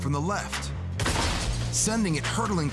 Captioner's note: loud bump